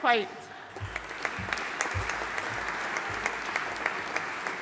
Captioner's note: audience applauding